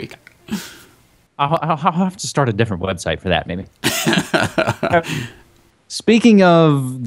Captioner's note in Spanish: risas